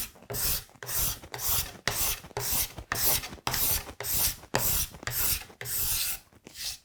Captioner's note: blade on wood continues scraping